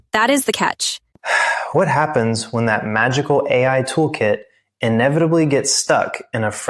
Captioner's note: sighs